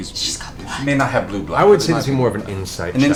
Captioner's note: whispers